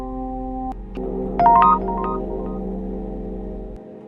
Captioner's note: text sound; dark music